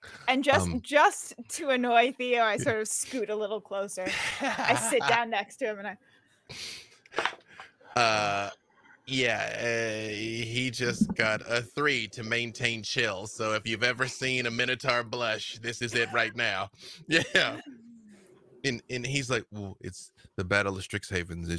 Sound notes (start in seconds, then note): 4.0 laughing; 17.0 laughs; 17.1 laughing